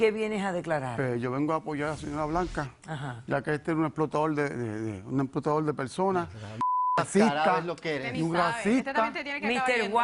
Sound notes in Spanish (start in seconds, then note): 6.6 Bip